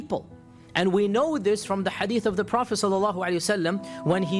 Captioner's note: speaking in Arabic